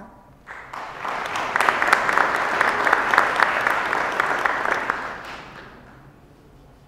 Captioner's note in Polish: oklaski